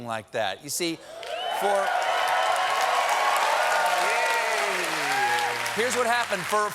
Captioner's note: cheers and applause